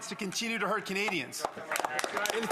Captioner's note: speaking French